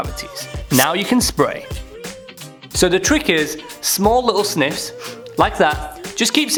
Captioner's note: nasal spray sound